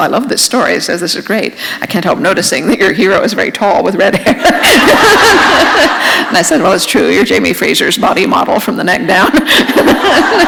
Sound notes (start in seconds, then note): 4.2 laughter; 9.2 laughter